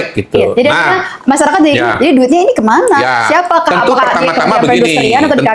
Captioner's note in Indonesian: tertawa